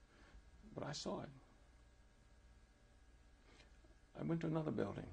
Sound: pauses for 3 seconds

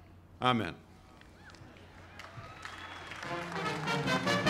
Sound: applause; band playing

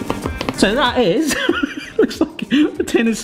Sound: laughs

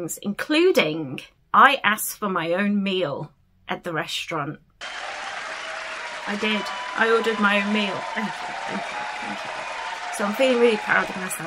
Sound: applause sound effect

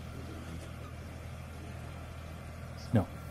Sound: tractor whirring

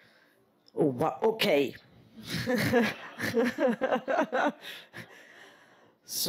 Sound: laughs

